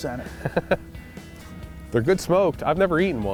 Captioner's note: laughing